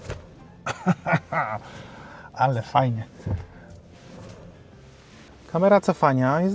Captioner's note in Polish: śmiech